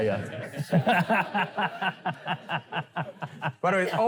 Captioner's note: laughter